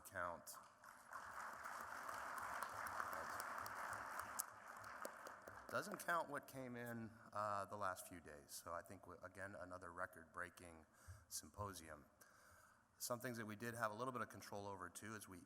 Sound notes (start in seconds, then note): 0.0 applause